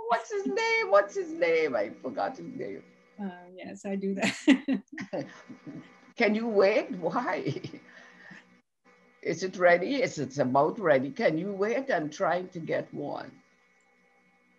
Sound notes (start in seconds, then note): 4.3 laughs